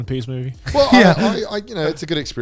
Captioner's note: laughing